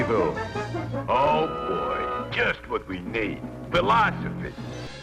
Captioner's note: with a heavy Brooklyn accent